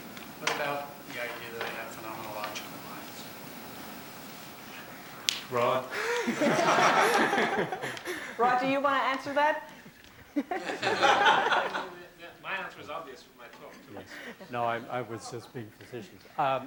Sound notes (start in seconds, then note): 5.9 laughter; 10.2 laughter